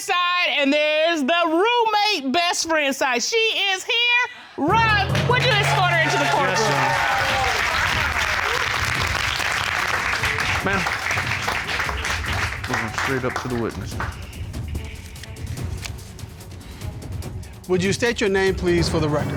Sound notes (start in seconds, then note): 6.6 cheers and applause